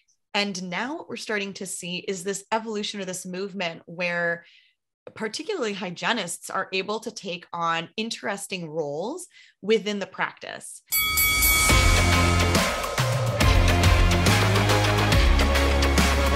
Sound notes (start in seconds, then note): 10.9 bell dinging; 10.9 upbeat music